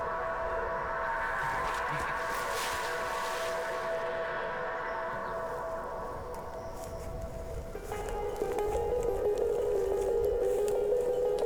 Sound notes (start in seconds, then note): 1.1 leaves rustle; 7.2 suspenseful orchestral music